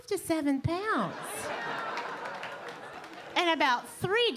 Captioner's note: audience laughing